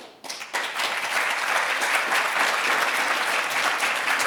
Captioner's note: audience applauding